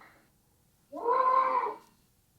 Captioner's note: GOAT sound